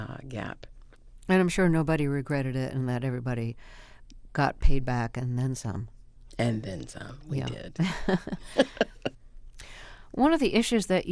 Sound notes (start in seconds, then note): 9.3 laughter